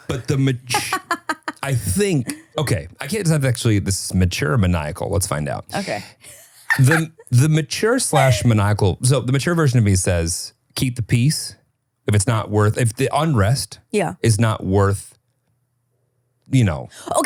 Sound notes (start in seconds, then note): 0.6 laughing; 6.3 laughing